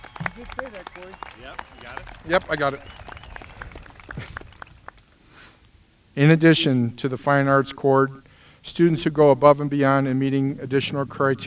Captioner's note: applause